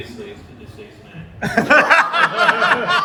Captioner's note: laughter